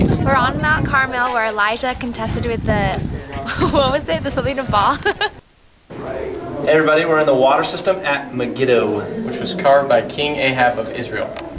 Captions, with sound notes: - We're on Mount Carmel where Elijah contested with the-- (laughs) What was it? The something of Baal? (laughs) - Hey everybody, we're in the water system at Megiddo. - Which was carved by King Ahab of Israel.